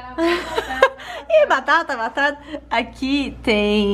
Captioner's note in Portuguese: rindo